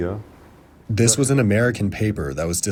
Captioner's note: through translator